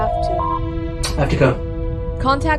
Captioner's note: door Chime